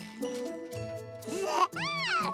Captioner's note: babbling